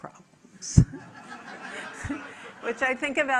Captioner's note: audience laughing